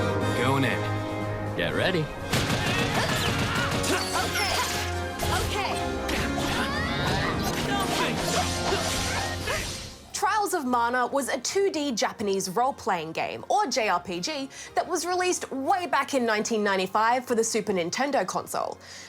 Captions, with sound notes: Goin' in. Get ready. (WOMAN GRUNTS) OK. OK. (ALL GRUNT) Trials Of Mana was a 2-D Japanese role-playing game, or JRPG, that was released way back in 1995 for the Super Nintendo console.